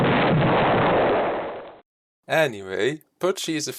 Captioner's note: explosion